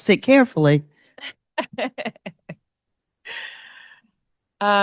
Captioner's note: laughs